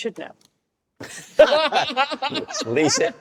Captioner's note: all laugh